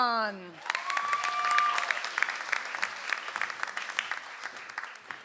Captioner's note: audience applauds